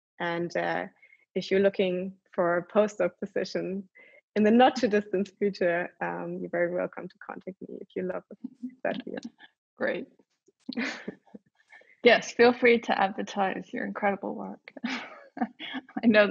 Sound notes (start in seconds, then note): 10.5 laughs